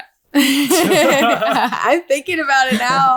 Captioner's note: laughing